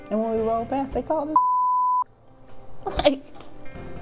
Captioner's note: beep